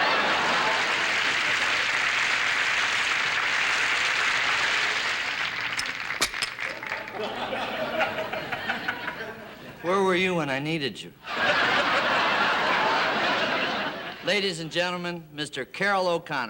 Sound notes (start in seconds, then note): 0.0 audience applauding; 5.4 clicking; 11.2 audience laughing